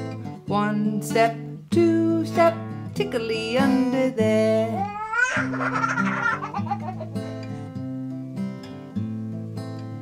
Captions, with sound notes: one step two step tickley under there [giggles]